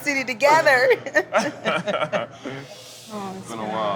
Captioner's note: both laugh